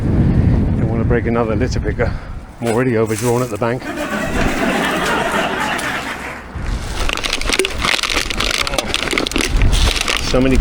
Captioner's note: laughter